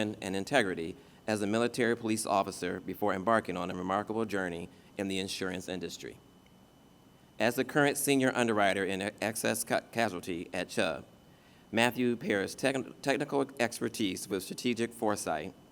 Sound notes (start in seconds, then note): none